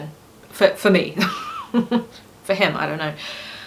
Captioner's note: laughs